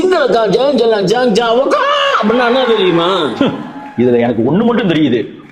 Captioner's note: speaks in indecipherable language